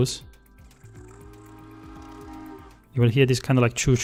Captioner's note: choo-choo sound